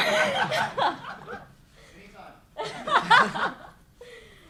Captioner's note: crowd laughing